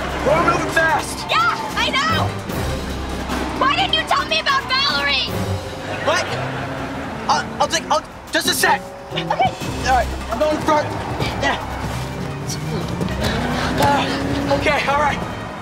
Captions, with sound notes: - He knew the test! - Yeah, I know! Why didn't you tell me about Valerie? What? Er... I'll take-- I'll-- just a sec! - OK. - Alright. I'm going front, yeah! [engine revving] OK, alright!